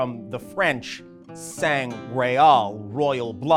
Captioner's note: speaking in a foreign language